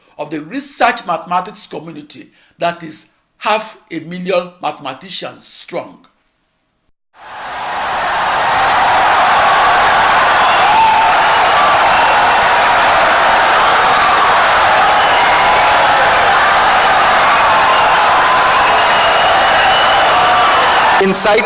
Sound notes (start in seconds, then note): 9.1 wild applause and cheering for 17 seconds